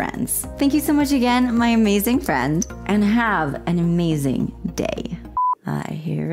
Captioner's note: blooper beep